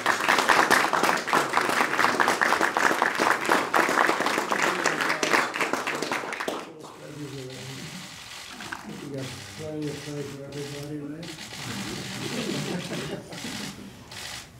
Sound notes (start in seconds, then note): 8.4 applause